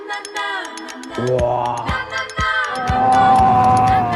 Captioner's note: crying out in excitement